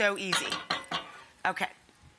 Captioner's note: grater clanging